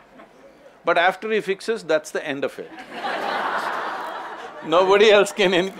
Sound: laughter

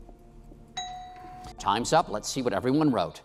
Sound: bell dings

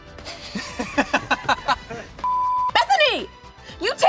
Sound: laughing

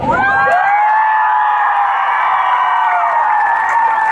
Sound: cheering

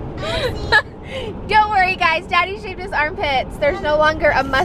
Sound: laughs

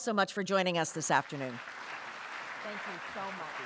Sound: applause

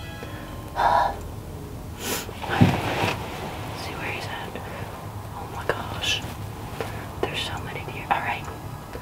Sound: whispering

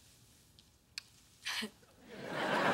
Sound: chuckles

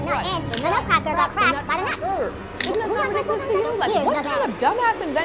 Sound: mounting sounds of babble

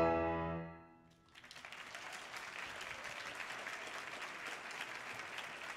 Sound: audience applauding

